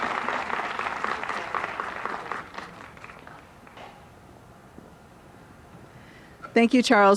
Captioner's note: applause